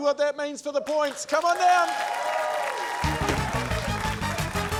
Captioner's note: cheering, applause